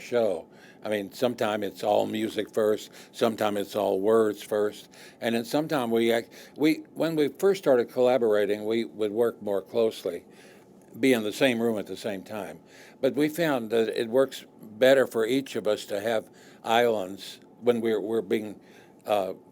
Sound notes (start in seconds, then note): none